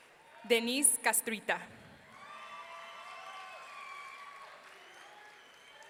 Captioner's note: audience cheering